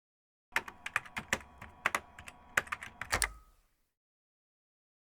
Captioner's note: keyboard Typing Sounds